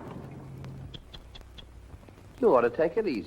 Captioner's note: tutting